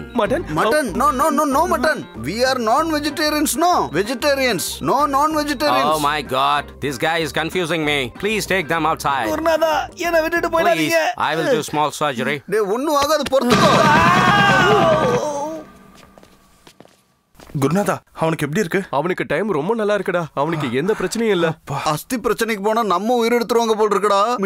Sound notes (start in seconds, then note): 13.6 screams in pain